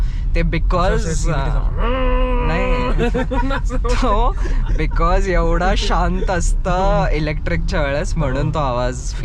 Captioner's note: laughs